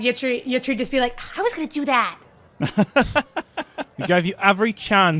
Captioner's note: laughs